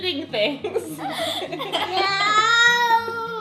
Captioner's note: laughing